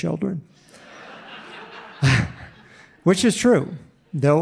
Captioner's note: audience laughing